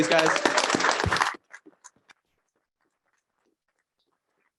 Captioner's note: applause